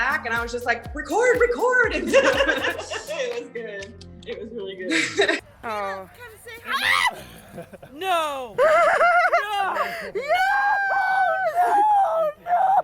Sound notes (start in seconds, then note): 2.0 laughs; 6.6 screams; 10.5 crying